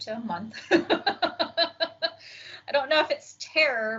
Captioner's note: laughs